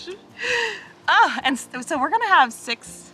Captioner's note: sighs